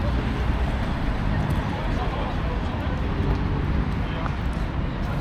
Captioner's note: people chattering